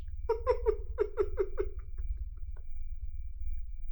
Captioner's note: Chuck giggling